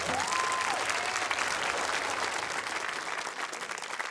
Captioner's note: cheering, applause